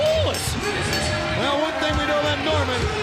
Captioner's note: bell ringing